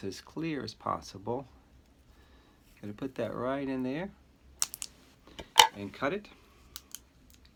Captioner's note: scissors snip